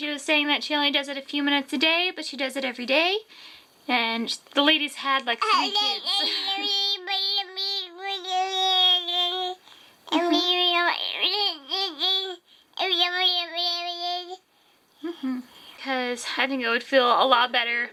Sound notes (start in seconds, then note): 10.1 baby babbling